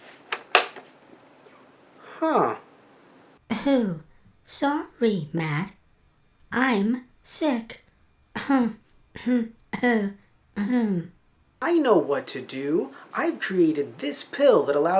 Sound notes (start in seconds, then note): 3.5 coughing; 10.6 elongated coughing